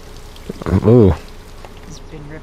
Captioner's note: ohh